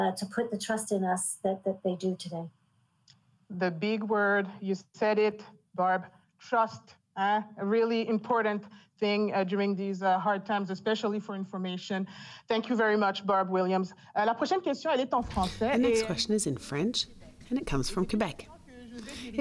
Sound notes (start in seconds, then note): 14.1 speaking French